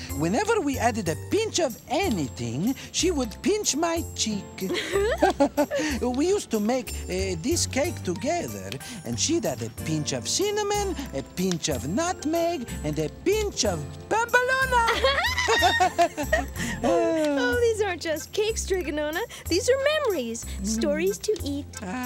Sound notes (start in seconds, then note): 14.6 laughing